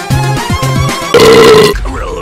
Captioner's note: imperial belch